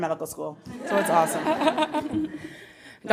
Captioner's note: audience laughing